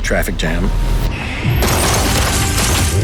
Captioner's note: glass shattering; gunfire